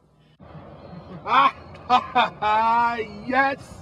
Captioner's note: Rob laughs